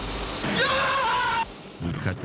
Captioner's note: screams